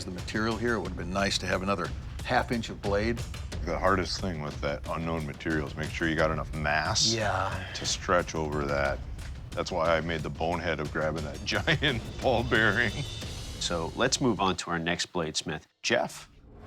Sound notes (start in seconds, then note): 11.0 laughing